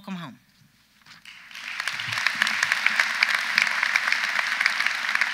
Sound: audience applauds

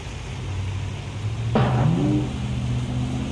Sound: bang

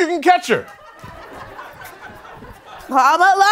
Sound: laughter

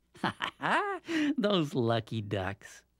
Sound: laughs

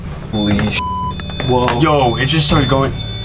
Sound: beeps

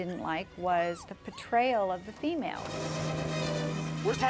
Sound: none

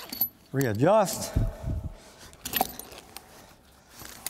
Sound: jangling

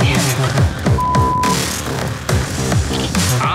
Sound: beep

